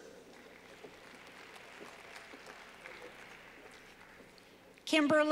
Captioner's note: clapping